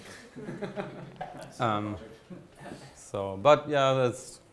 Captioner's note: audience chuckles